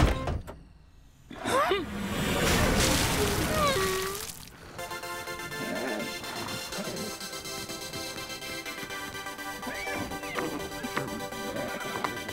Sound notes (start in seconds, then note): 3.0 groaning